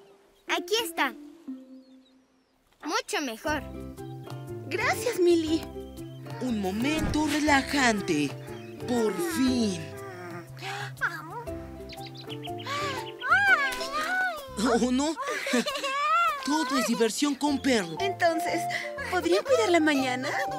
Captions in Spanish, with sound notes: Aquí tienes. Está mucho mejor. Gracias, Millie. Un momento relajante. Por fin. [Sonido de ave] O no... Todo es diversión con Pearl. Entonces, ¿podrían cuidarla mañana?